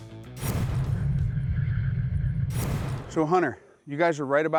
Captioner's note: electronic whirring